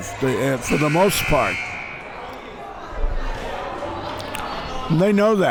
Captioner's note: buzzer buzzes